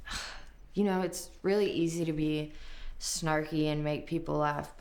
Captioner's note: scoffs